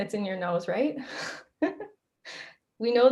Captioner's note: laughs